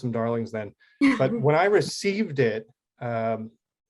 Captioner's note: laughs